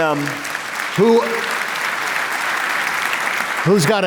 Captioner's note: applause